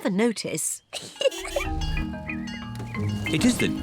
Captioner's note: giggles